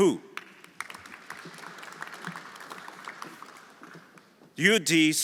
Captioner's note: everyone applauding